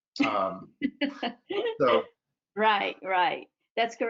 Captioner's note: laughs